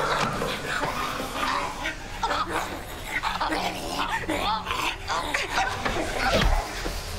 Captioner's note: Lyne choking; Tracy growling; object thuds